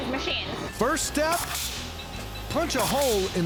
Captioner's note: grinding, cutting sound